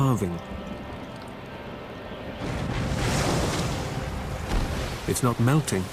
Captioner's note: booming splash